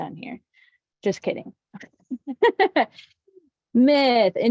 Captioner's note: laughs